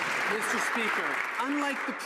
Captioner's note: some Applause